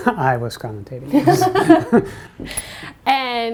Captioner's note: laughter